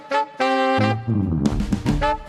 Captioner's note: none